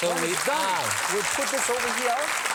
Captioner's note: applause